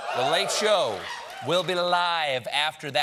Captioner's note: cheering